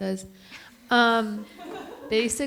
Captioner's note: everyone chuckles